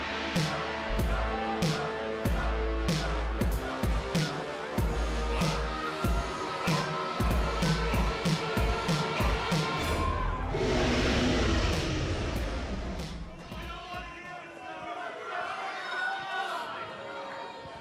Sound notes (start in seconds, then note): 4.7 fans chanting